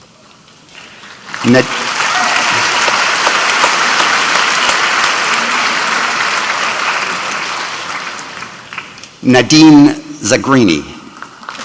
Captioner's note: applause